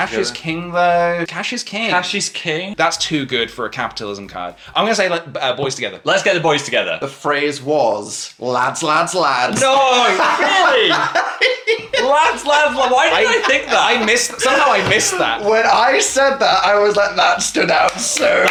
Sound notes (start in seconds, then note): 9.9 laughs; 17.7 clapping; 18.3 laughing